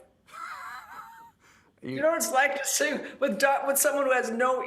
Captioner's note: laughter